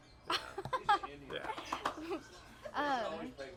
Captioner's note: laughs